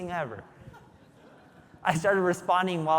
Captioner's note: audience laughing